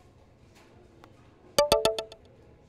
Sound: text alert

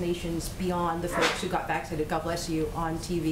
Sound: someone sneezes

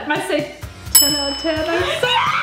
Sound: bell dings

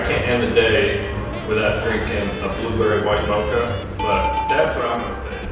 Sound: correct answer bell

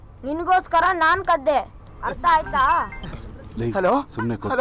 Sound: phone rings

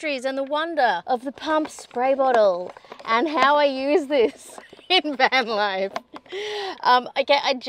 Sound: laughing

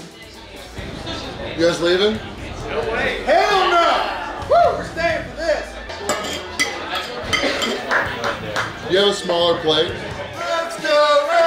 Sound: crowd; chanting ensues

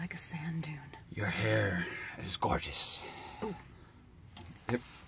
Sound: rasps

